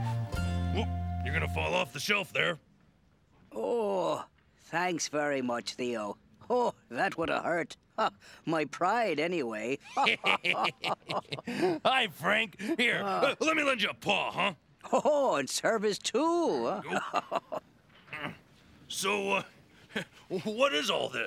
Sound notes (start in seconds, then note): 9.8 both laugh; 16.8 chuckles